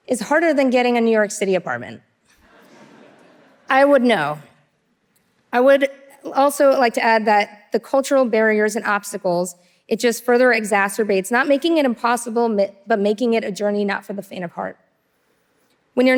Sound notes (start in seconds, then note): 2.4 audience laughing